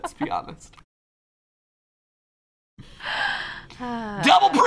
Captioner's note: awkward silence